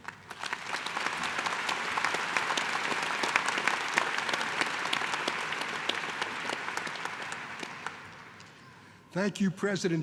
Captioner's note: applause